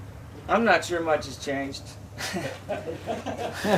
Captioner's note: laughter